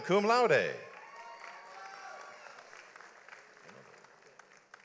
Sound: audience applauds

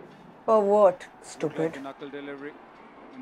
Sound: TV playing

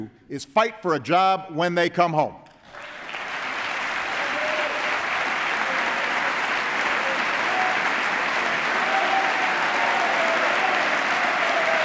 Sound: applause

